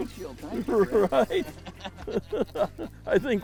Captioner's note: laughing